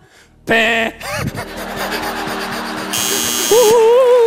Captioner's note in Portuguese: risos; campainha